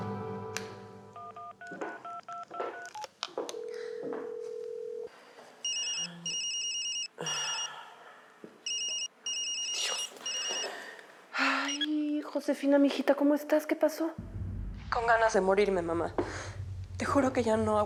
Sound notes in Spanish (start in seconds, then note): 3.4 sonido al marcar; 3.5 la otra línea timbra; 8.6 suena el celular